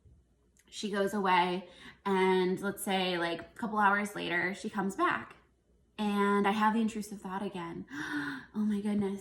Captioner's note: gasp